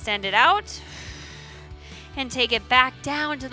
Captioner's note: exhales